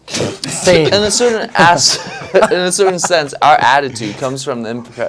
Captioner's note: laugh